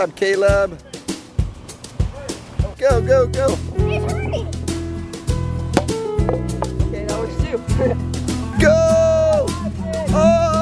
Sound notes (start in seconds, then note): 1.6 lively music; 5.4 lively music; 8.3 laughs